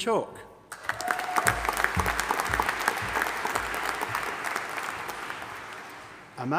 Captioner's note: audience applauding and cheering